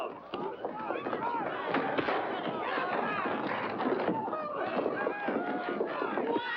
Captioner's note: commotion